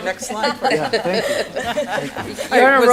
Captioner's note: laughter